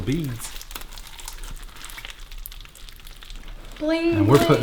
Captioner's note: squishing